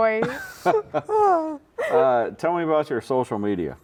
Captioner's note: laughing